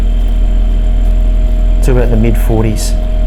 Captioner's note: fan drones